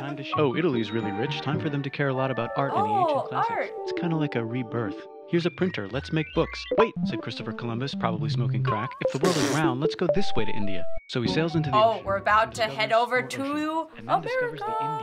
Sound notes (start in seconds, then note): 9.0 spluttering